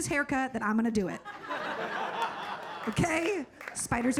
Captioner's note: audience laughing